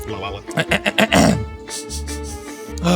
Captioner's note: trilling; clearing throat; sniffing; sighing